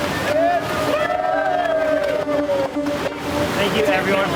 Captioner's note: crowd cheering